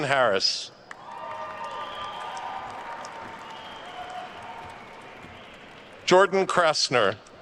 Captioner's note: attendees cheering and applauding